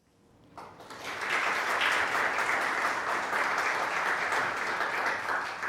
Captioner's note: audience applauding